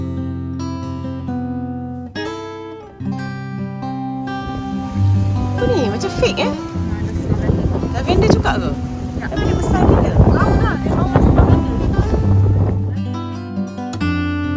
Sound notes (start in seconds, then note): 1.8 background music; 7.0 speaking German